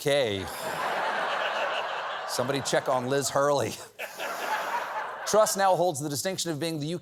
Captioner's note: laughter